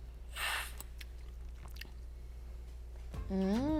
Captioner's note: slurping